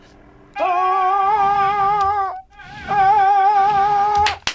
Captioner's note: shouting; clapping